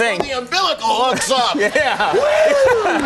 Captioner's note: audience cheering; cheers